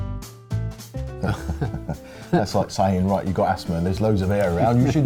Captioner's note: laughs